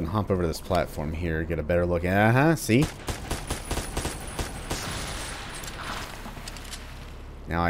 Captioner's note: full-auto pew pew